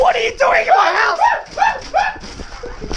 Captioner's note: masculine screaming